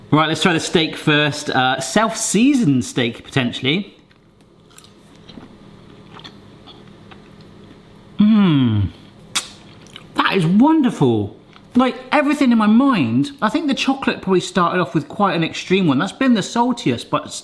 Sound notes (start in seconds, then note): 5.8 chewing; 9.3 kissing